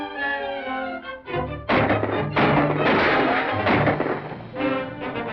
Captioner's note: gunshots